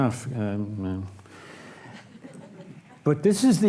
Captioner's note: audience laughs